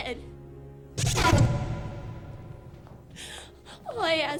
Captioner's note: rapid startling swooshes